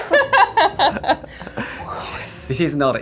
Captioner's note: laughing